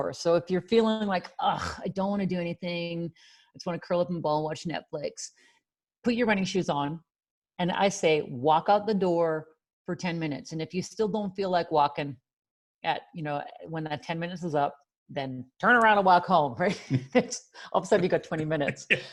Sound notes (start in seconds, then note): 18.6 laughs